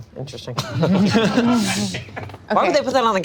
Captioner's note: group laughs